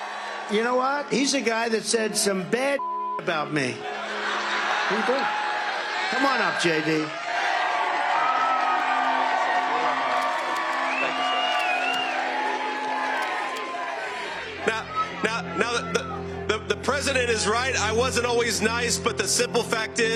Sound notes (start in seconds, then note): 3.3 audience laughing, calling; 7.7 audience cheering